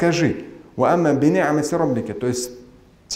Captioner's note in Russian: Говорит на арабском